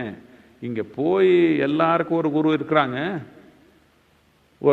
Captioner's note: none